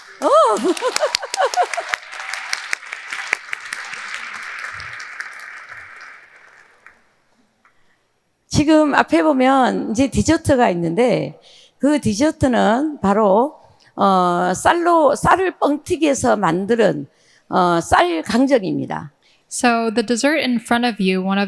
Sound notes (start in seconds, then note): 0.0 audience cheering; 0.0 audience applauding; 0.2 laughing; 8.6 speaking in foreign language